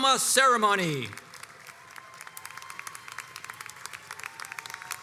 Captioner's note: crowd applauds